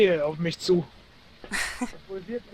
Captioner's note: giggle